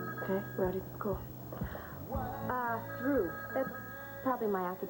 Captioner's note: telephone rings